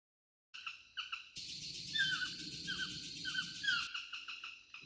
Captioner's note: birds chirping